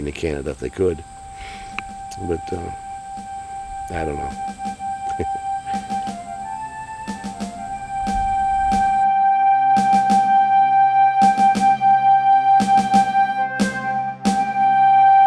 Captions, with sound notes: to Canada if they could, but I don't know. (chuckles) (bright dramatic music)